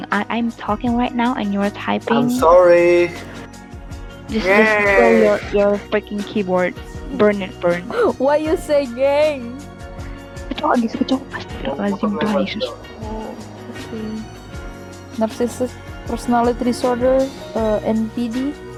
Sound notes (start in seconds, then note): 7.9 giggles